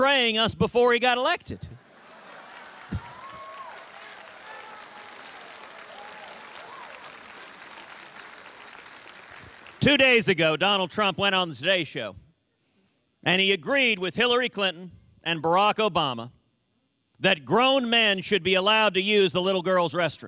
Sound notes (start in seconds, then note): 7.1 cheers and applause